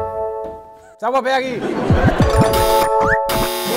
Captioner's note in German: Elektronische Geräusche